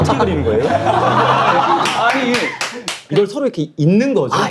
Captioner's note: bursting out laughing